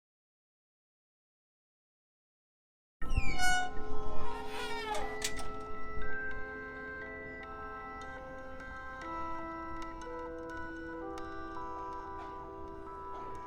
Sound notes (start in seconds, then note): 3.0 door creaks then closes